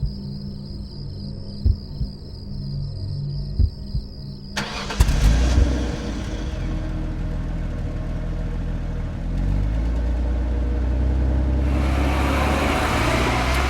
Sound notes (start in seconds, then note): 4.5 car engine rumbling